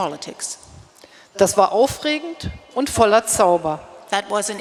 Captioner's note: speaking in German